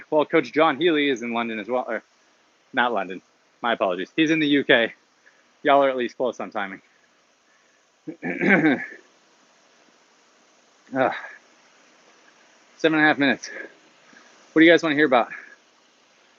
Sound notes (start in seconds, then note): 8.0 clears throat